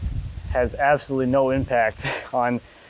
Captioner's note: laughing